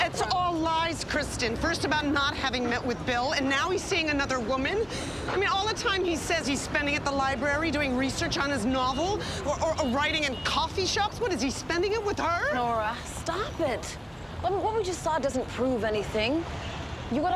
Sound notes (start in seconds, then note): none